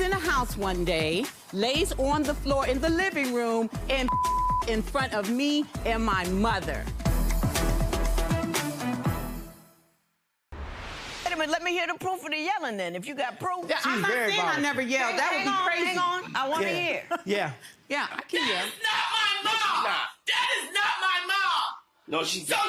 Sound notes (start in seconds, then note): 4.0 beep; 7.8 upbeat music